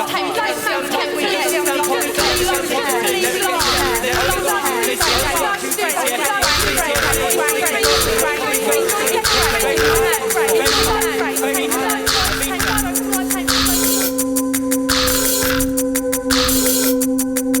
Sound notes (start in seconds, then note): 4.3 indistinct chatter; 12.1 punchy electronic music